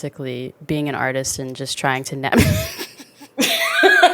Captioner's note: both laugh